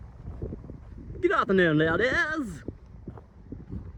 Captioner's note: silly posh voice